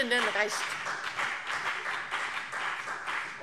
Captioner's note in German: Beifall BÜNDNIS 90/DIE GRÜNEN und vereinzelt CDU